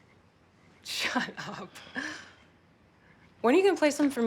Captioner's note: chuckling